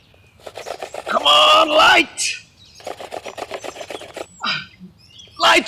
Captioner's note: grunts